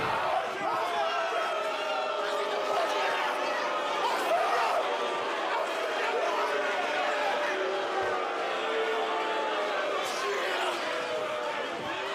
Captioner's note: crowd chatter